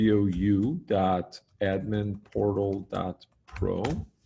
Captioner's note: typing